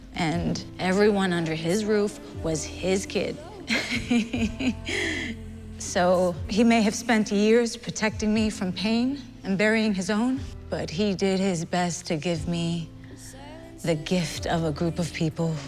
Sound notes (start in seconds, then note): 3.6 laughs